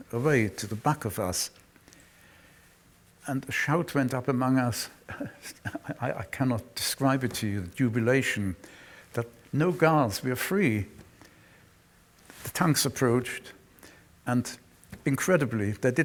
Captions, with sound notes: Away to the back of us, and shout went up among us. [chuckles] I cannot describe it to you, the jubilation. That no guards - we're free. The tanks approached and incredibly, they